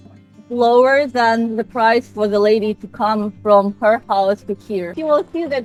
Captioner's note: Ukrainian